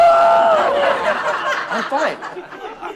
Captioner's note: screaming; audience laughing